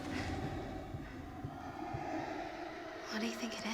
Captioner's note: dinosaur growling